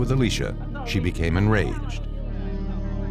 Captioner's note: arguing